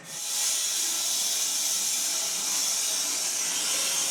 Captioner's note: saw whirring